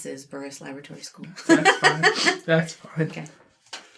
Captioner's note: laughs